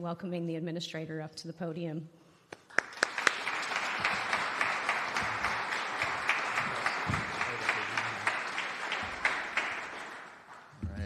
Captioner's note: applause